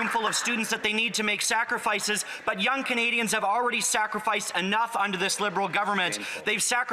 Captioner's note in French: voix de l'interprète